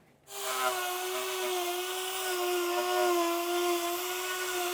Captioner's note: drill sound